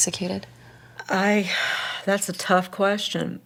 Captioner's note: sighs